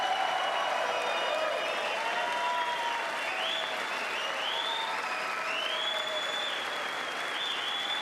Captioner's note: applause